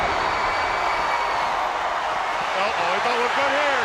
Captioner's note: crowd cheering; wrestlers thudding on ring